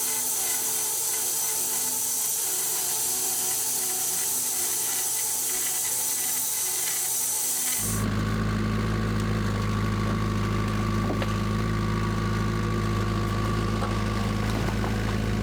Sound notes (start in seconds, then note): 0.0 saw whizzing; 7.9 engine roaring